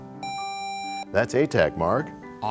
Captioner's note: buzzer